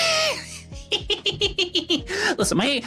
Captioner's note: laughs